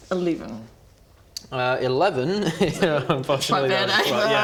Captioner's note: laughs